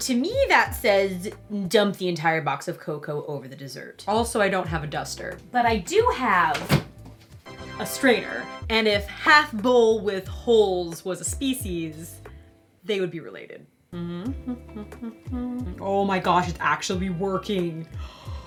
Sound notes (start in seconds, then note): 13.9 humming